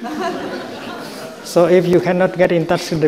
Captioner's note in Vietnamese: Đại chúng cười